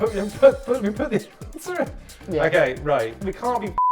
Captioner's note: stammering